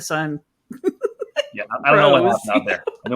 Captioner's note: laughs